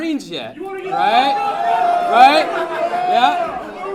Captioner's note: audience yelling